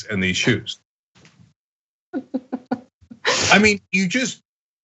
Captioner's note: laugh